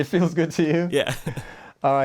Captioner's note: laughter